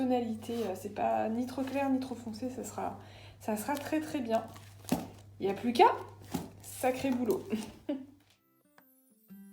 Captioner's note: laughter